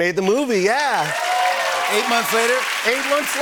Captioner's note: cheers and applause